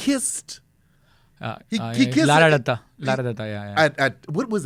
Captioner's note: speaking in foreign language